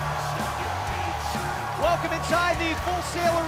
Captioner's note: crowd cheering